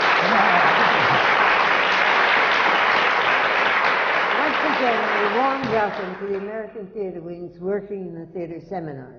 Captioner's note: applause